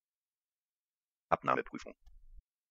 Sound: fast Pronunciation

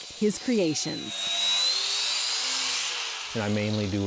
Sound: drill whirring

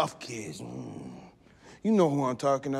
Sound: grunting

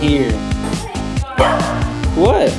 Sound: barks

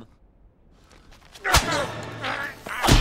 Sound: smacking noise

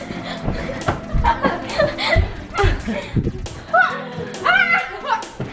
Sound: all struggling and laughing

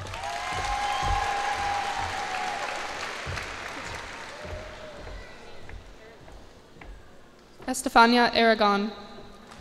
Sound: cheers and applause

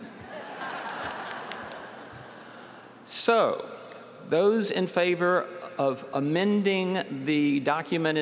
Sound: laughter

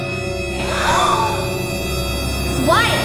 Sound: spooky music; gasping

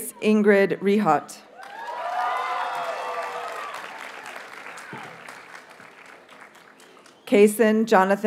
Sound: audience cheers and applauds

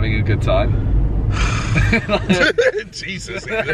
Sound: sighs; laughing

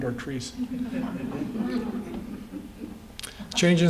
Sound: laughter

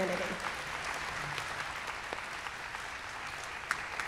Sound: clapping

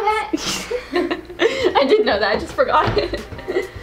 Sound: laughs

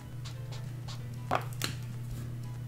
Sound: marker cap clicks off

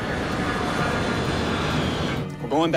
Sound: engine humming

